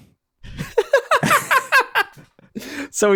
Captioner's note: laughter